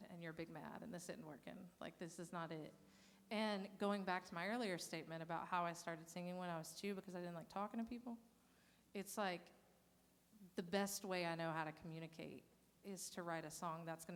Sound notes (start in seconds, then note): none